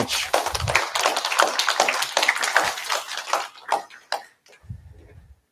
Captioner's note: applause